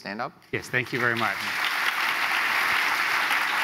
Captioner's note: applause; applause continues